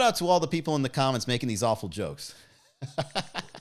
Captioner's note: laughs